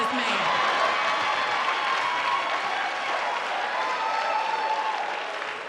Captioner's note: audience cheering and applauding